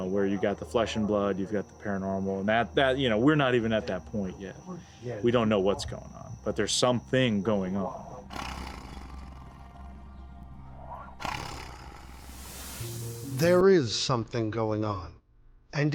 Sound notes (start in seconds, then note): 8.2 Bigfoot growling